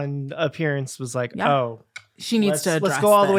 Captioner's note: click sound